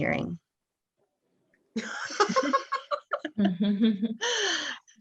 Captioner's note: laughs